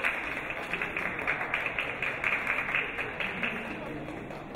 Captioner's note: people talking